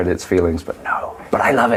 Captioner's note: whispers